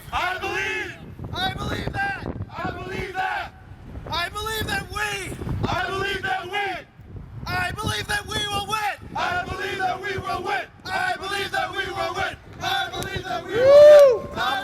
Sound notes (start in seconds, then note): 0.2 voiceover; 12.4 continues chanting